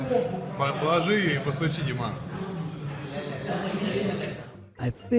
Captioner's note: speaking in foreign language